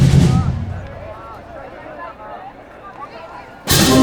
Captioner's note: chatter